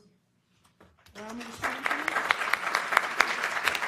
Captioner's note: applause